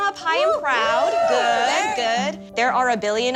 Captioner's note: cheering